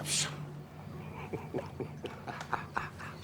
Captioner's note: laughs